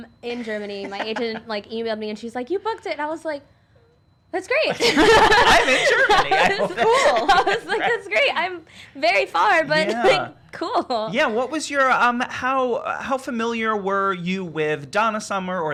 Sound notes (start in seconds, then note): 4.7 laughing